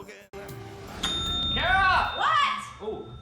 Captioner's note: bell dings